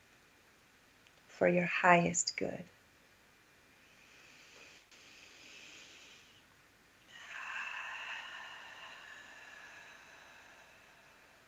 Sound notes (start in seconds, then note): 7.1 breath